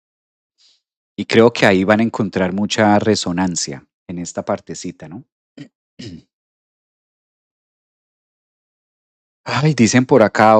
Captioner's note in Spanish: carraspeo